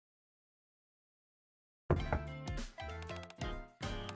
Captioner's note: knock knock